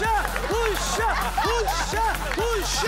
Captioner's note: Shouting